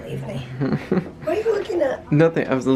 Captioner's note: chuckles